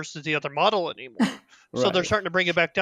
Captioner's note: sad laugh